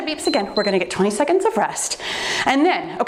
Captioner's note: timer beeps